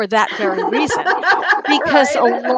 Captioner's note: laughs